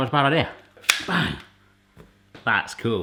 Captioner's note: slicer snaps